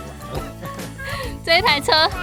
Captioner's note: laughs